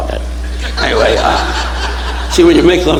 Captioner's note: audience laughing